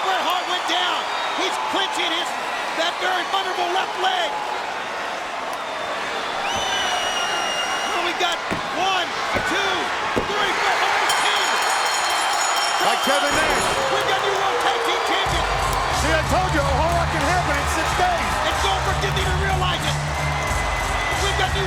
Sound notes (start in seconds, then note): 5.0 crowd cheering; 10.8 bell ringing; 11.5 crowd cheering; 20.6 crowd jeering